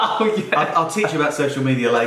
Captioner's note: laughing